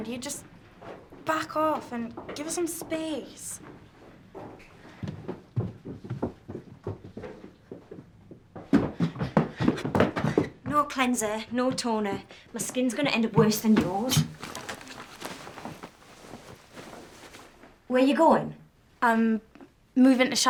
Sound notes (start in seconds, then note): 6.5 Maddy running upstairs